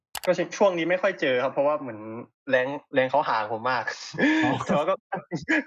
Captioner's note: laughs